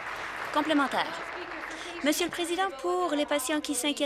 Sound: applause

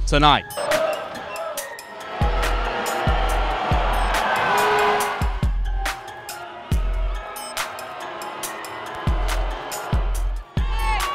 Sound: fans cheering and booing

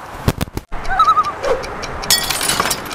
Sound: loon call

